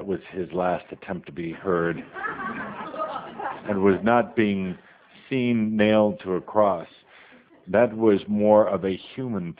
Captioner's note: audience laughter